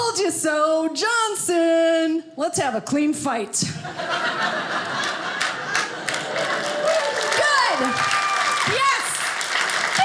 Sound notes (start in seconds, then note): 3.8 audience laughing